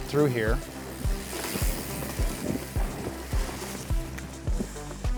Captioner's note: bikes riding past